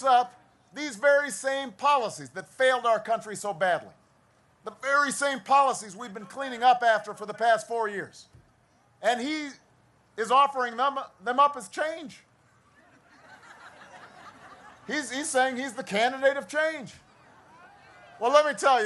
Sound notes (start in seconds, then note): 12.7 laughter; 13.2 cheering and applause